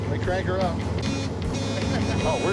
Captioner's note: horn beeping